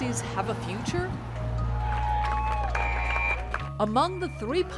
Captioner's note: applause; horn whistles